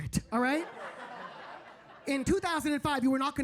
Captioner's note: audience laughing